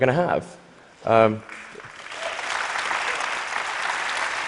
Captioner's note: applause